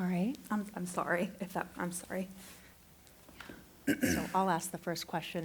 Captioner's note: clears throat